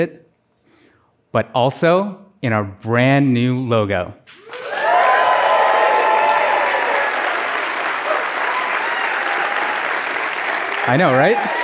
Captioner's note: applause